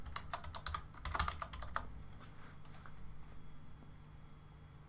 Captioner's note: keyboard typing